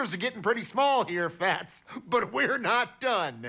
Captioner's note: laughing